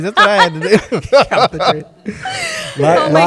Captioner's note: laughter